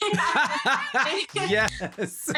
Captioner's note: Baratunde laughs